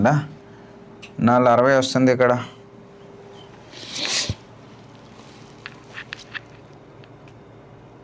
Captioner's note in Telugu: గురకలు